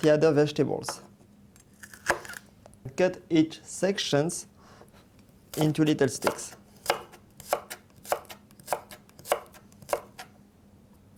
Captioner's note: cutting sounds